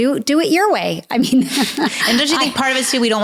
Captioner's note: laughing